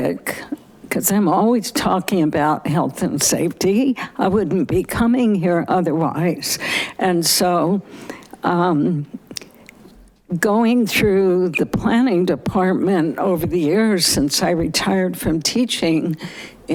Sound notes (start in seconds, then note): none